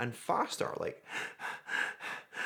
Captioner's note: panting